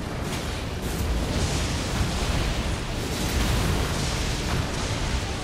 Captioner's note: lightning crackles